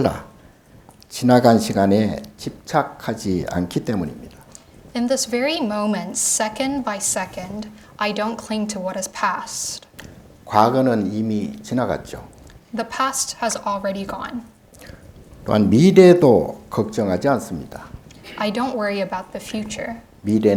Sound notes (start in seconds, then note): 10.6 speaking Korean; 20.4 speaking Korean